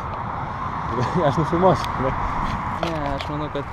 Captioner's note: laughing